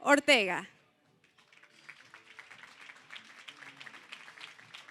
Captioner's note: applause